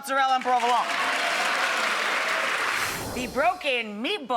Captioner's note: crowd clapping